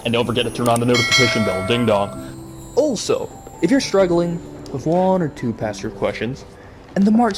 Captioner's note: ding dong